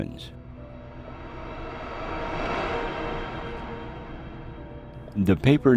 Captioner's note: eerie music; crafts whooshing